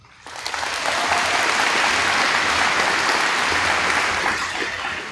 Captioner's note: audience applauds